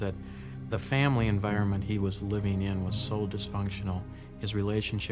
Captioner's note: voiceover